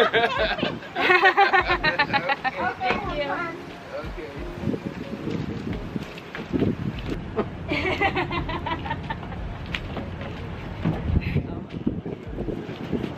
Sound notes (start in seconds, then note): 0.0 laughing; 7.3 laughing